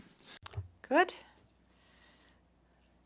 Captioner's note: speaking French